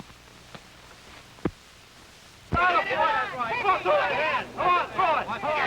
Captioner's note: crowd shouting